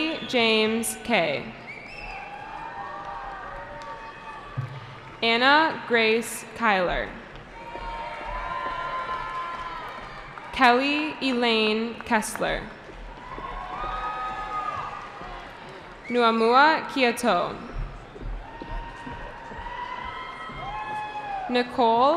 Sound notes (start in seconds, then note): 3.9 cheering; 7.5 cheering; 13.0 cheering; 18.4 cheering